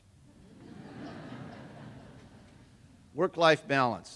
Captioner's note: laughter